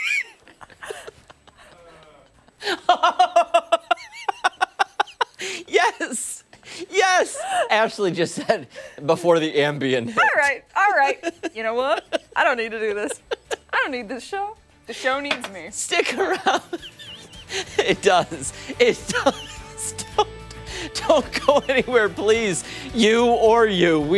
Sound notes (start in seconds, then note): 7.6 laughter